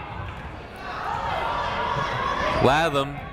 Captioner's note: people shouting in the crowd